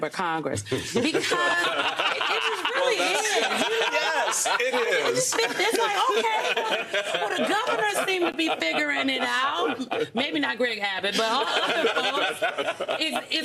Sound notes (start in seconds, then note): 6.8 laughter